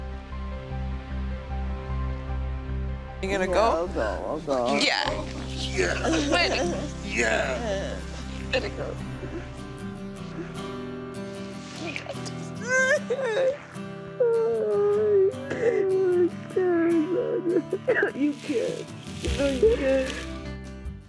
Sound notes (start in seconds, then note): 12.1 sobs